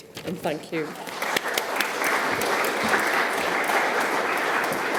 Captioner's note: applause